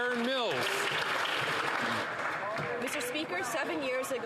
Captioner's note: some Applause